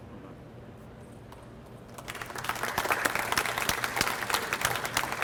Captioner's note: audience applauds